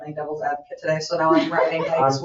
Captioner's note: members laugh